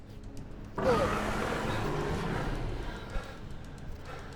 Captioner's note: dragon growls